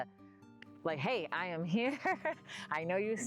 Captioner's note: laughs